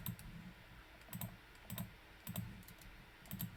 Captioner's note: mouse clicking